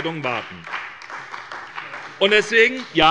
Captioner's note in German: Beifall bei der SPD